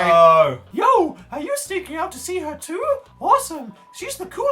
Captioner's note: high kid's voice